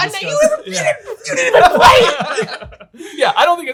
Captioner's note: group laughs